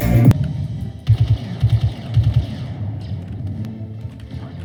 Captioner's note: gaming sounds